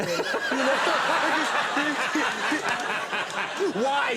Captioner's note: audience laughing